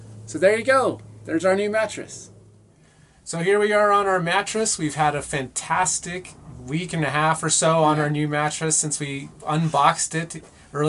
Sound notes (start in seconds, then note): none